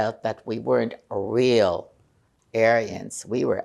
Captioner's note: none